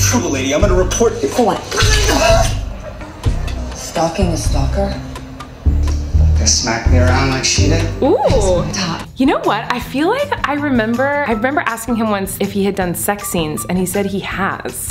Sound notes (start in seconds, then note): 2.2 screams